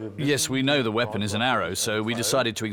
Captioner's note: in German